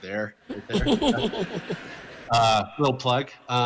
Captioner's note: laughter